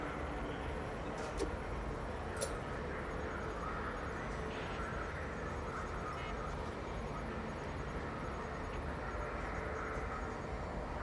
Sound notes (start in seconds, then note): none